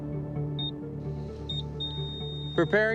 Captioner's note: beeping